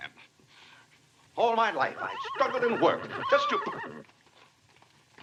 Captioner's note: horse neighing